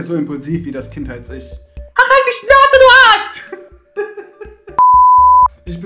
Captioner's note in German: hysterisches Lachen